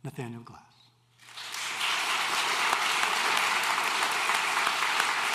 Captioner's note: applause